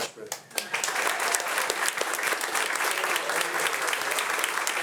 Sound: audience applauding

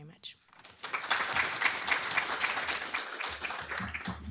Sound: applause

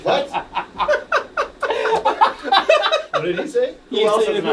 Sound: laughs; all laughing

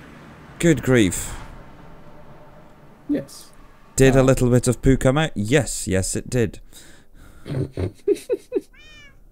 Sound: giggles

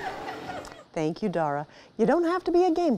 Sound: people laughing

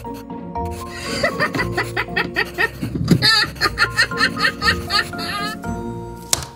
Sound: laughing

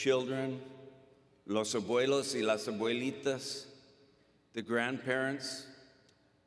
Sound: speaking Spanish

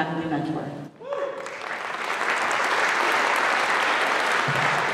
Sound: applause

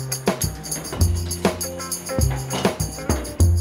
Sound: elevator door opens

